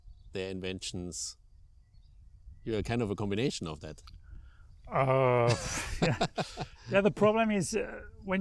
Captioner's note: laughing